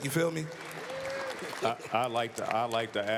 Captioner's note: applause